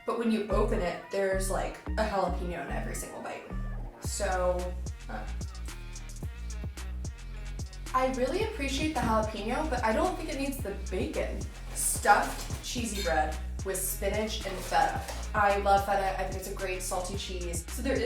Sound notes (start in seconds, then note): none